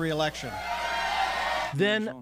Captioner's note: cheering and applause